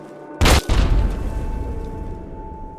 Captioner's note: BOOM! A hidden landmine explodes right under Skulls feet!